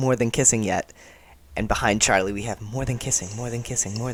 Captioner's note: echo